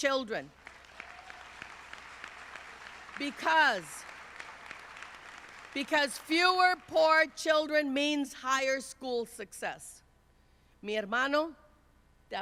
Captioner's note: speaking Spanish